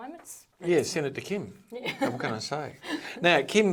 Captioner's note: chuckling